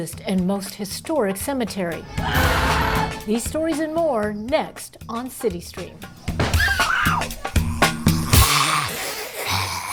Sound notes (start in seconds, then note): 2.2 scream